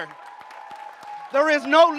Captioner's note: audience cheers and applauds